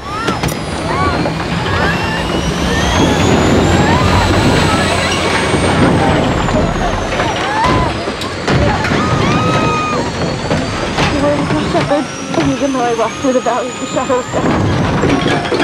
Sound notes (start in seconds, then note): 0.2 passengers screaming; 0.2 plane rumbling; 7.7 punch thudding; 9.2 passengers screaming; 15.3 objects clattering